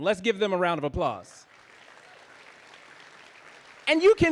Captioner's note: audience applauding